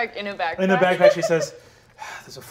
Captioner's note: sighs